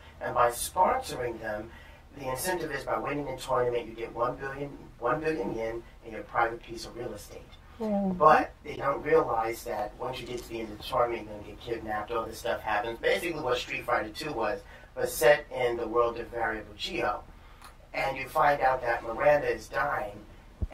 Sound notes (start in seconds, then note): 7.7 sounds of agreement